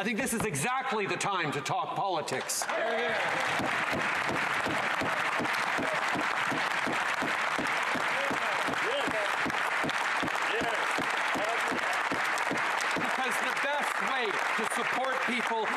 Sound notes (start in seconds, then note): 4.2 applause